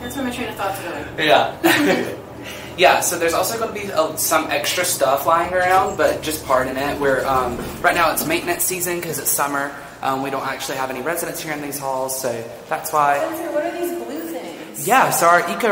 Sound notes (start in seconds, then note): 1.6 chuckles